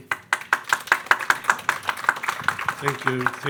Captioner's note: attendees clapping